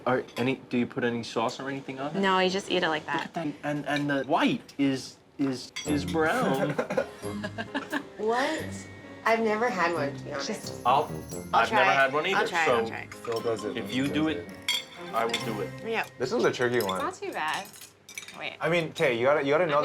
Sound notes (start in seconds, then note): 6.4 laughing